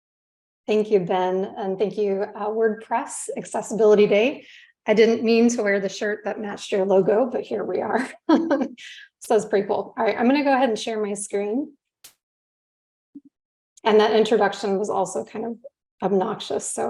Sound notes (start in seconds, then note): 8.3 chuckles